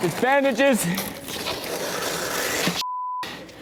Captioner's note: creepy noise